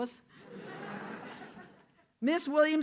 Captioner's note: audience laughs